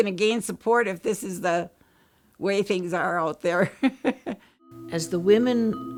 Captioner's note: laughs